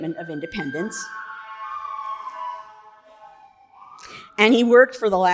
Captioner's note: alarm blaring